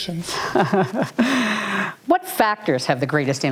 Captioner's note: laughs